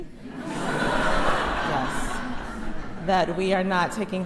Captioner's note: crowd laughs